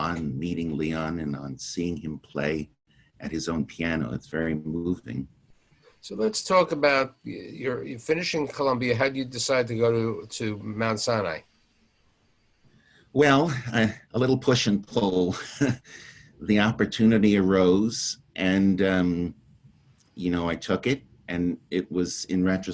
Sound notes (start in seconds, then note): 15.2 chuckles